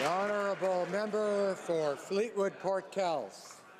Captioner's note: some Applause